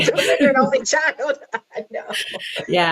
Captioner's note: all laughing